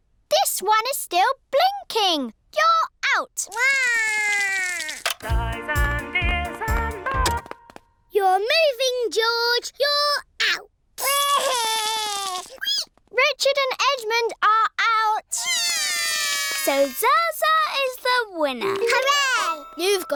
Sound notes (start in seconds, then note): 3.6 cries; 7.6 music stops; 11.0 cries; 15.5 both cry